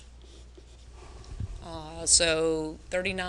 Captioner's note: pen scratching